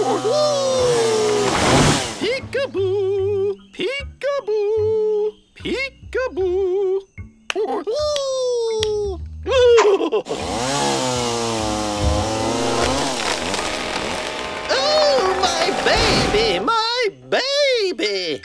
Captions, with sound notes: YAY! PEEKABOO! PEEKABOO! PEEKABOO! YAY! (laughs) (saw whirs) OH, MY BABY! MY BABY!